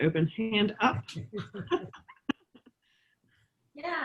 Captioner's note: both laughing